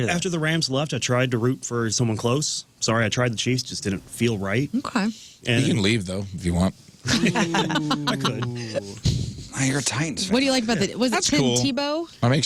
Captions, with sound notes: After the Rams left, I tried to root for someone close. Sorry, I tried the Chiefs, just didn't feel right. Okay. You can leave though, if you want. (Laughing) I could. I hear a Titans fan. What do you like about that? Was it Tim Tebow? That makes